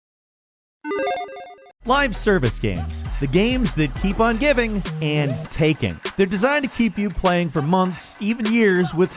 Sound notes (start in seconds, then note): 0.9 graphics chiming